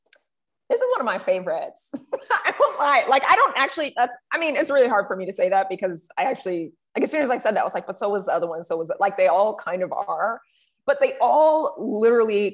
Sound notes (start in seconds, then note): 2.0 laughs